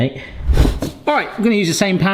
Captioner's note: screen wipe whooshes